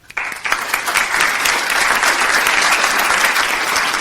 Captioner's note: audience applause